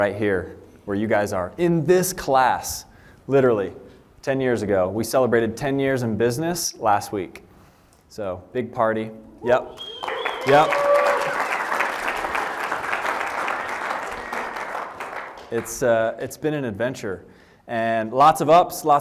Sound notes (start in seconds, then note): 13.1 applause